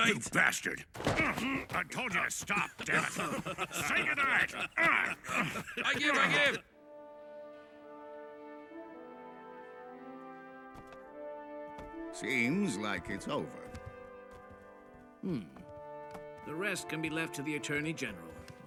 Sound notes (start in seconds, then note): 1.0 both grunt; 2.4 laughter; 4.7 grunting